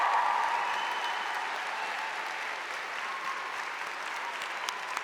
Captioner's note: applause